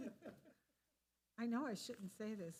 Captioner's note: people laughing